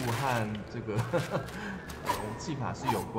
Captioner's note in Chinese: 笑聲